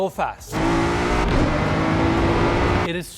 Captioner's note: car engine revving